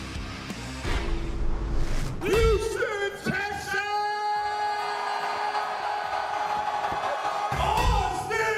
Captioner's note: cheers and applause